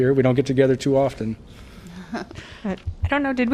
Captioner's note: laughter